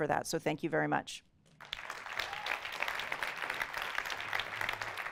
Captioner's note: audience applauding